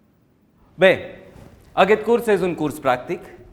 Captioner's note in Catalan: none